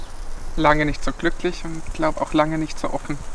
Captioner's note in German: none